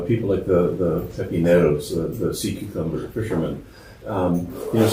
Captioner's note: spanish